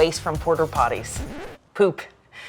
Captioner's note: tape stopping abruptly